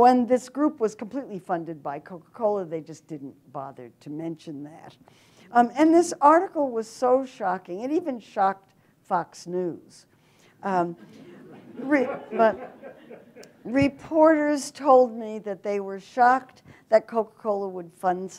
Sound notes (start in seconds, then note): 11.0 audience laughter